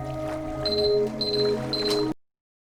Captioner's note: beeping